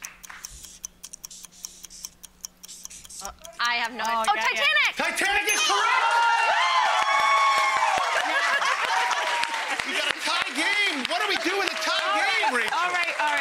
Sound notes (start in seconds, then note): 0.0 clock ticking; 5.1 audience cheering